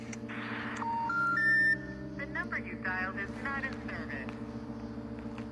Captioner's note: phone call beeping